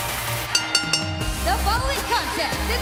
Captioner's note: bell ringing